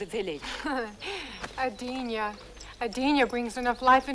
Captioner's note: laughs